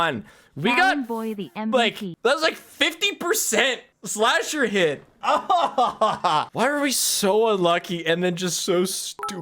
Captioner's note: pained laugh